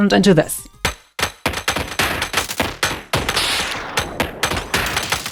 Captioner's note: digital sounds